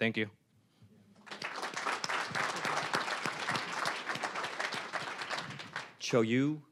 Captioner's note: applause